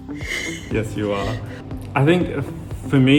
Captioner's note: laughs